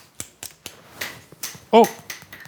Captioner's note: object rattling